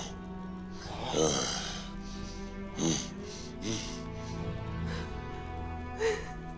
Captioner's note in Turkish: Nefes sesleri; Gülme sesi